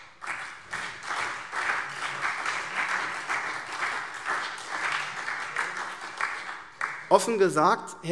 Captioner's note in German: Beifall SPD, CDU, BÜNDNIS 90/DIE GRÜNEN und Freie Demokraten